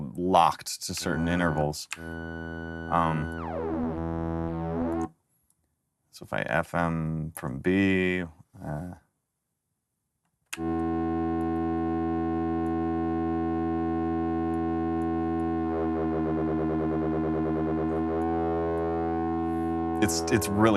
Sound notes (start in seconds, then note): 9.6 wavery tone